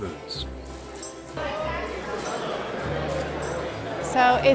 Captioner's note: general hustle & bustle